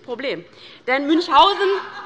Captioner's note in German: Heiterkeit bei der LINKEN